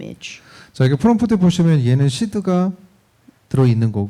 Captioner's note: speaking korean